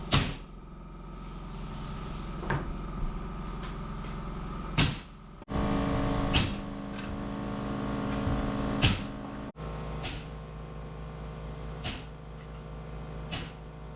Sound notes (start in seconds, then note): 3.6 drill whirs; 10.6 needed whirs